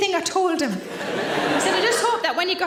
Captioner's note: audience laughing